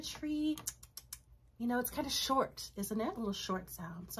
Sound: clicks tounge

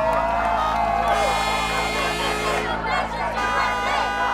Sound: horns honking

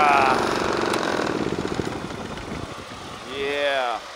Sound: groans; fading engine rev

